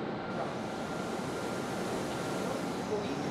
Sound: loud whirring

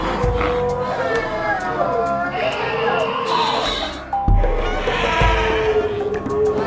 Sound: herd Sounds

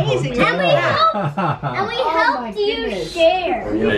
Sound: laughs

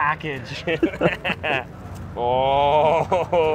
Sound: chuckling

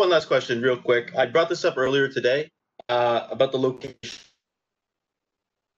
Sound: signal breaks

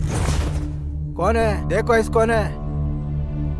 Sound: tribal Language

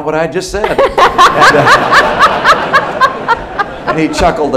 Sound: laughter

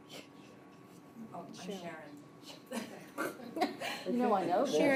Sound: chuckles

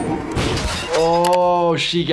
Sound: intense instrumental music; device crashes

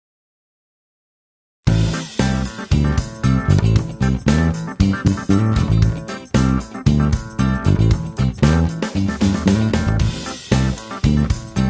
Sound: intro Music; assembly sound, background music

